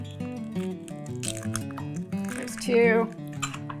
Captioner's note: egg dropping